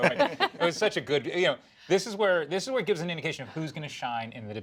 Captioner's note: laughter